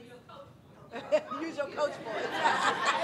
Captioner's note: audience laughing